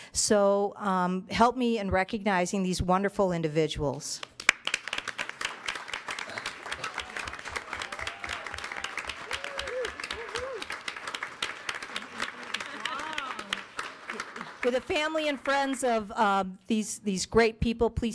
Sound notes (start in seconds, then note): 4.8 audience clapping